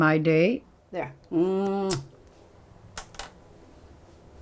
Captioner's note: kisses